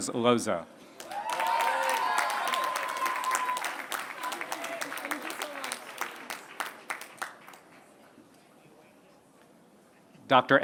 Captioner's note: applause